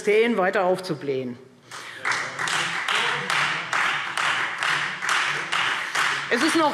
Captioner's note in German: Beifall Freie Demokraten und vereinzelt SPD